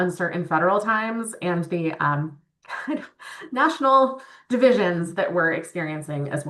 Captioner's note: chuckles